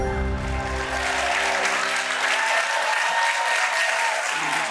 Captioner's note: audience clapping and cheering